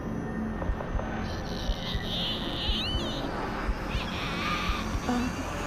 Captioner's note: demon screeching